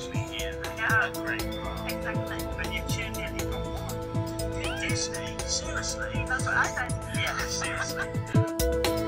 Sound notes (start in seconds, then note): 4.3 squeals